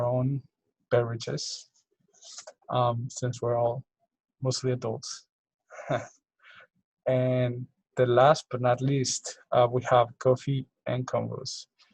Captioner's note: chuckles